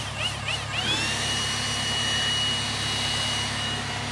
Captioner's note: leaf blower whirs